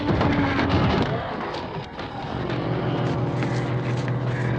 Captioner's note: ghouls growling